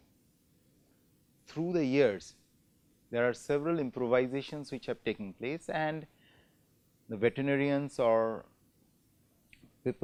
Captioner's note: air conditioning